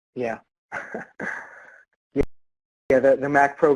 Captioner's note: laughs